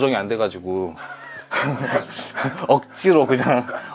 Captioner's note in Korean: 커커컹컹컹ㅋ엌ㅋㅋ